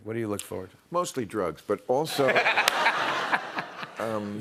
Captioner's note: laughter